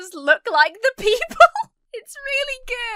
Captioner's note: laughs